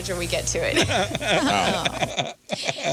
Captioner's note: laughing